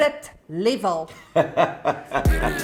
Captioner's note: laughs